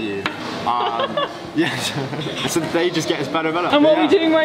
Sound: chuckles

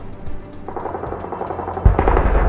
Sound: gun Fire

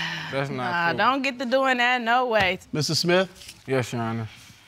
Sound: sighs

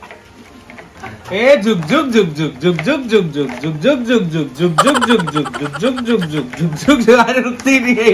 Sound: imitiating train sound

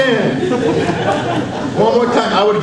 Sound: audience laughs

